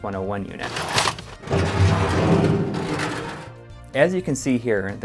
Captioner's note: crashing sound